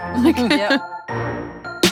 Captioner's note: laughs; electronic music